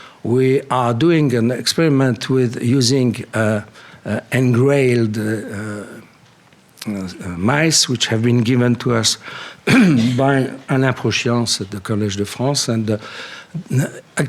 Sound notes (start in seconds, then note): 9.6 coughs